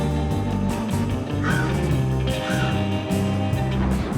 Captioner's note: bird cawing; thunder crashing